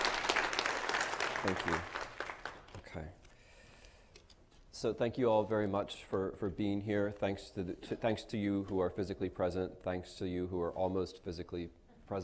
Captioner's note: applause